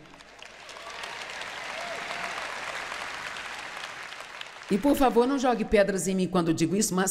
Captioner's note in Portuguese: audiência aplaude